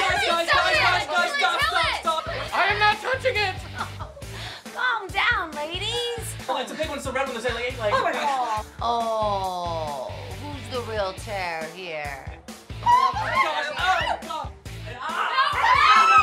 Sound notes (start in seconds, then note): 3.7 Julie laughs; 12.8 women squeal